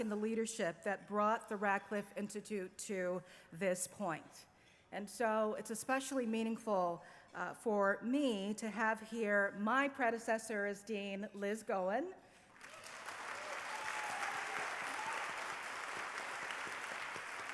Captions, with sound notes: and the leadership that brought the Radcliffe Institute to this point. And so it's especially meaningful for me to have, here, my predecessor as dean, Liz Cohen-- [APPLAUSE]